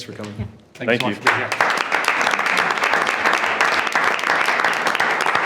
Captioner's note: attendees clapping